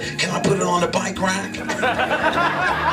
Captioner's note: laughter